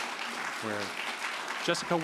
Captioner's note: applause